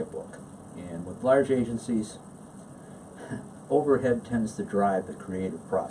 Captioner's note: chuckles